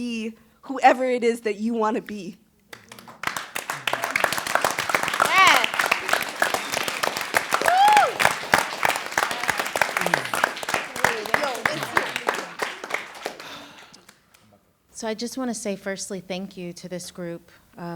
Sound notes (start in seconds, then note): 2.5 applause; 6.9 whooping; 8.2 applause